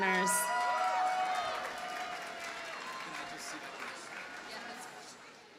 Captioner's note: audience cheers and applauds